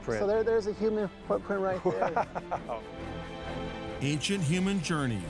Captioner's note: laughing